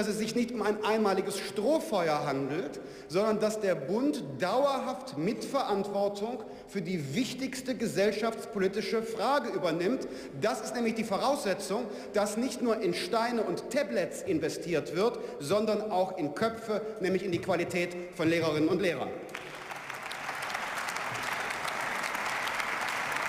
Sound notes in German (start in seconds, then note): 19.2 Beifall